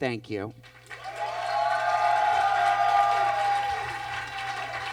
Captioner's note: audience cheers and claps